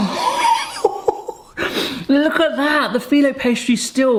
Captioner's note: chuckles